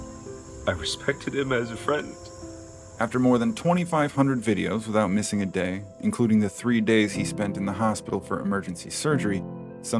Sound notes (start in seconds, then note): 2.3 background noise of crickets fades